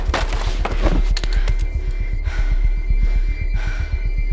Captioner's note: Cara breathing heavily